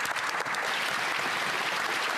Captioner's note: speaking French